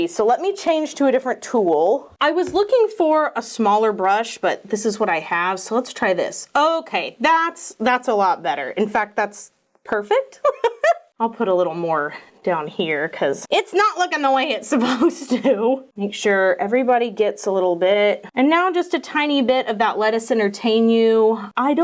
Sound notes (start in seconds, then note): 10.4 laughs; 15.5 laughs